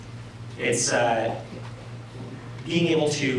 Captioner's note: none